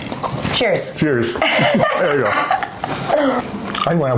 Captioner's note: laughter